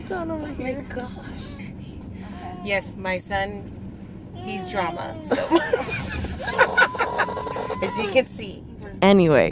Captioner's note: laughs